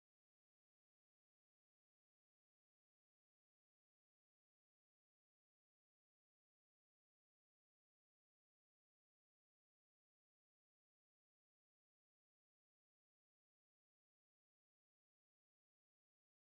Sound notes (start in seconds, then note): none